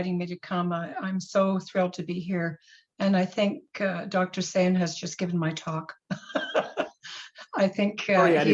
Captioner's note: laughs